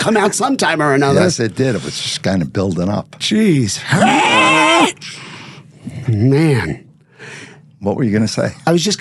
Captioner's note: screaming